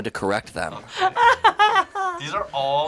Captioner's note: laughing